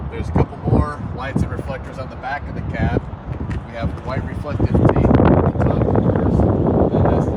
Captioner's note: none